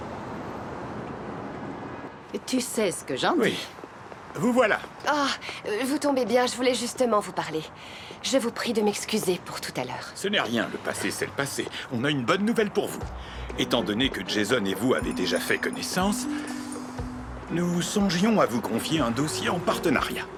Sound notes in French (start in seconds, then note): 2.1 bavardage indistinct